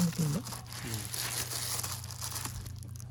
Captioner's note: rustle rustle